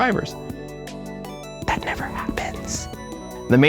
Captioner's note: whispers